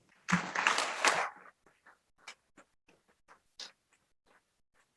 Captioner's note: audience applauds